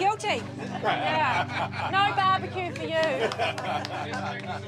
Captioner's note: others laugh